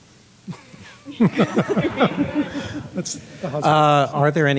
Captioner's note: laughing